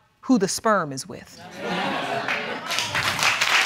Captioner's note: audience exclaiming; applause